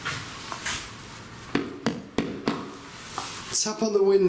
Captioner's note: taps on window